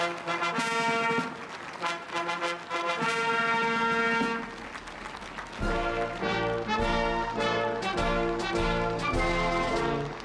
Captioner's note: applause; cheering